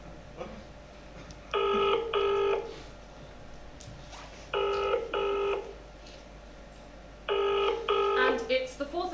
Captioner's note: phone rings